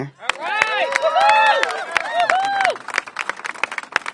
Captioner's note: applause